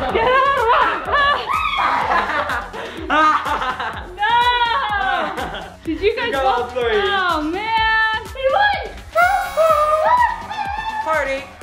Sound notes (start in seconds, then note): 2.2 laughing